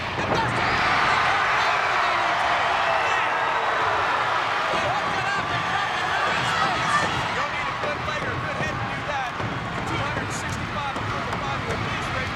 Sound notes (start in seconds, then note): 1.1 crowd cheers; 3.3 crowd cheering; 4.7 rhythmic pounding